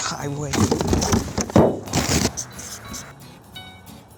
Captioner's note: rips box open; upbeat music